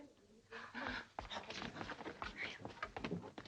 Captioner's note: girls gasping